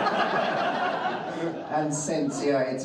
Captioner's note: audience laughing